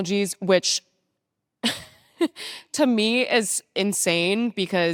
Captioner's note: laughing